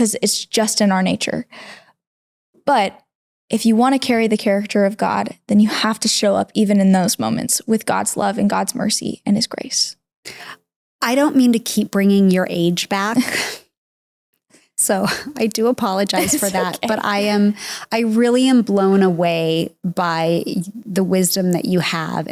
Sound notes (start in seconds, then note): 13.2 snickering; 16.1 giggling